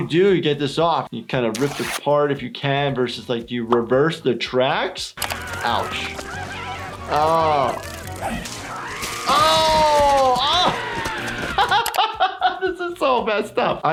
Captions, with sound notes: - What do you to get this off? You kind of rip it apart if you can. Versus like, do you reverse the tracks? Ouch. Ow. (Handy screaming) Oh (laughing) This is so messed up.